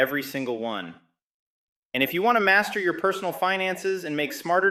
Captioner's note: excited